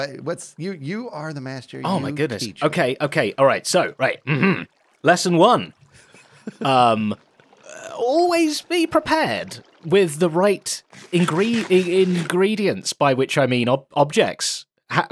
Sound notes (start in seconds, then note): 4.2 clears throat